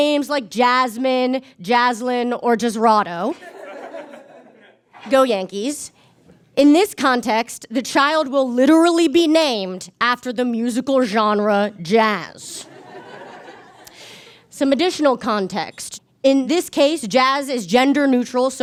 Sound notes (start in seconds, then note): 12.8 audience chuckles